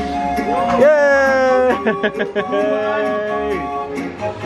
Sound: laughing

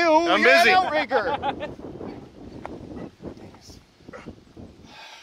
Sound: crew member laughs

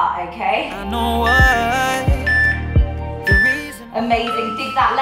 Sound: timer beeping

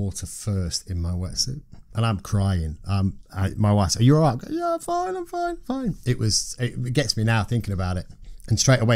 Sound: high-pitched mock emotional voice

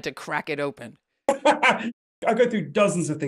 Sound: laughs

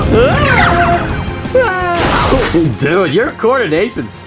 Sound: dramatic music; Junior whimpers

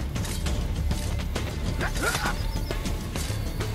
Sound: hidden blade stabbing sound

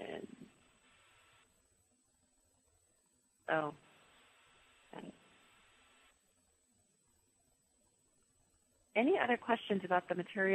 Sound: pause

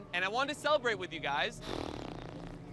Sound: sighing

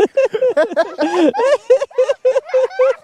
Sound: laughs

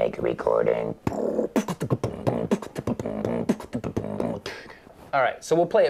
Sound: in robotic voice; imitating percussion rhythm

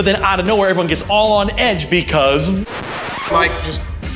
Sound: screeching

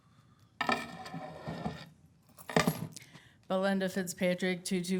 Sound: keys rattling

